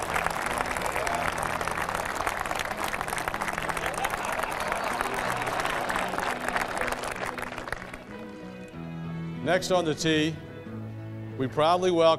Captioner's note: cheers and applause